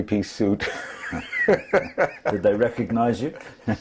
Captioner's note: laugh